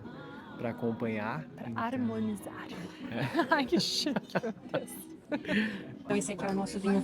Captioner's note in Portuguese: risadas